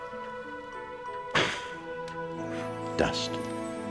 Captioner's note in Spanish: exhalando soplando